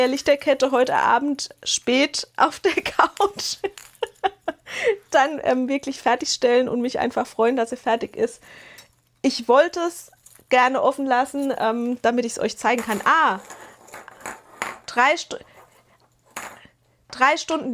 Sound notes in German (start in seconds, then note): 3.3 gelächter